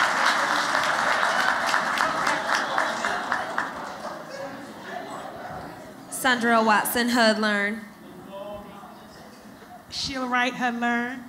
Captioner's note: applause